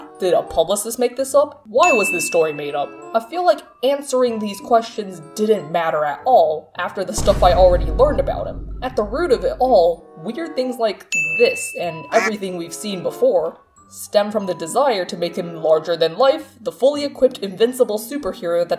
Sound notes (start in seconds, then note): 6.8 explosion sound; 11.1 ding sound; 12.1 duck quack